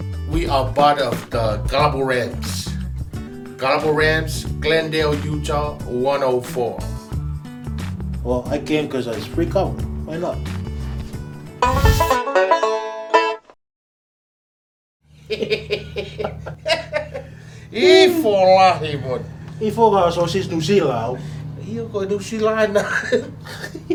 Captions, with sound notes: We are part of the Kalapu Ramz! Kalapu Ramz, Glendale Utah 104. Well, I came cause it was free kava. Why not? (Laughing) SWEET AZ! Sweeter than a New Zealand sausage? Yeah New Zealand is right down there!